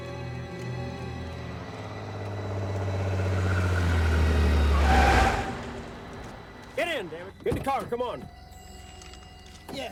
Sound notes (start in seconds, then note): 2.7 car revving; 2.7 tires screeching